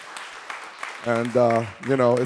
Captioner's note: audience applauding